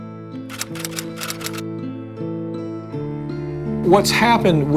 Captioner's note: typewriter keys clicking